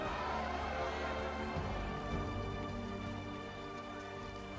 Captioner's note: cheers and applause